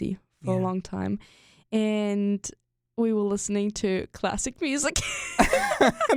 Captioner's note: both laugh